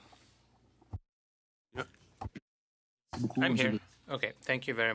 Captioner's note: speaking French